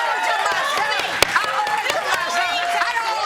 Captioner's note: judge banging gavel